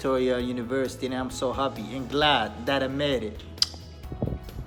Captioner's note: kiss